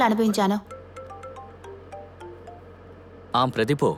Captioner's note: phone chimes